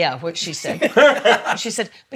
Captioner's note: laughs